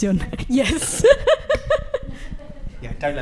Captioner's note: laughing